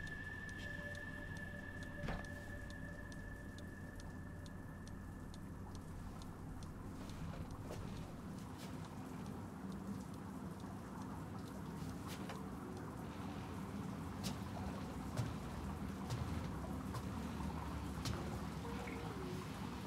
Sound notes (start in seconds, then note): 2.0 distant shuffling